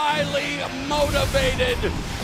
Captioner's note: bell ringing